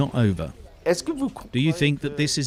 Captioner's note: non-english speech